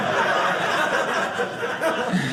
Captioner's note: audience laughing